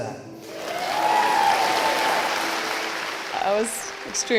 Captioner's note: applause